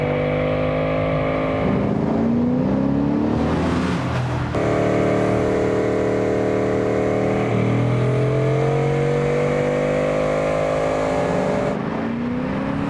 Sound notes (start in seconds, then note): 4.8 engine roaring